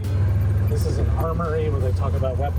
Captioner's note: engine revving